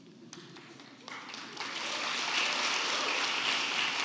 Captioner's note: audience applauding